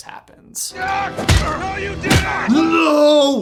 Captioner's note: smacks